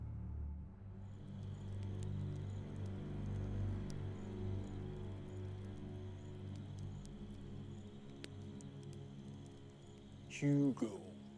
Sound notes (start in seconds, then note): 1.1 suspenseful music; 4.3 campfire crackling